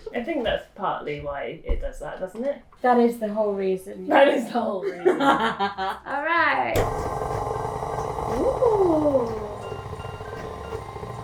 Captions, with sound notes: I think that's partly why it does that, doesn't it? - That is the whole reason, yes. - The whole reason. (laughter) - All right. (mixer whirring)